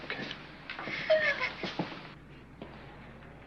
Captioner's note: crying